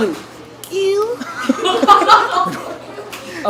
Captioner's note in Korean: 웃음